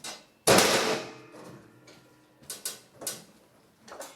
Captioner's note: metal hitting together